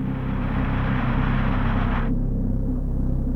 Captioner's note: rocket whirs